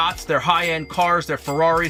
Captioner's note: cash register rings